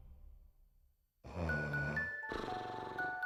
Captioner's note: snoring